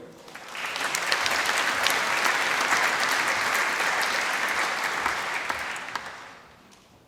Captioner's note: applause